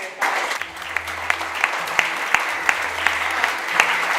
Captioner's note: audience applauding